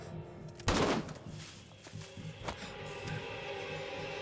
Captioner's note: guns booming; pistol booming